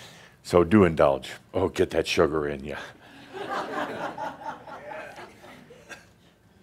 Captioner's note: some chuckles